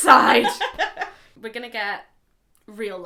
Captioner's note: laughing